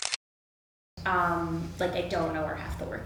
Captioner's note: camera clicks